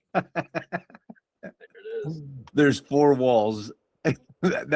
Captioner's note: laughs